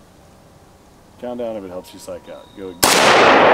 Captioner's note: gunshot